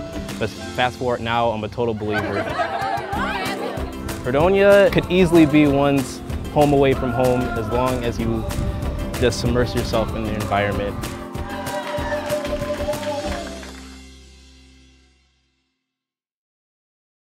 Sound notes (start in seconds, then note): 1.8 laughter and cheer